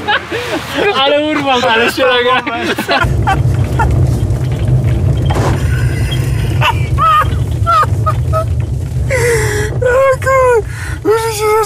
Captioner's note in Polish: śmiech